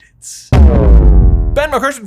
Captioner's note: bass hit sound effect